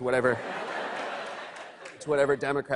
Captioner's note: laughter